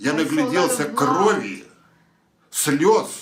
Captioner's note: foreign language